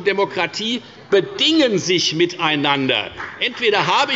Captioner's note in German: Beifall bei der FDP